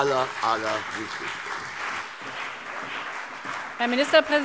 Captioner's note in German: Beifall CDU und BÜNDNIS 90/DIE GRÜNEN